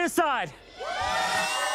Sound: cheers

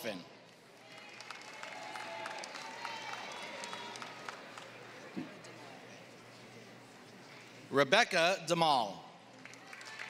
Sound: applause; applause

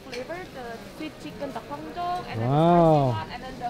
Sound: speaking in foreign language

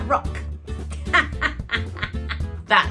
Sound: laughs

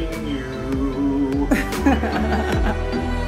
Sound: laughs

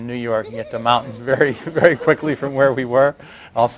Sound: laughter

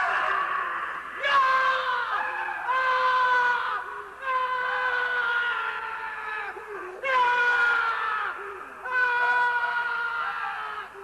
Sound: Montressor starts screaming louder than Fortunato

